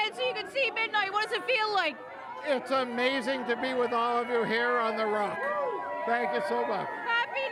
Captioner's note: cheers and applause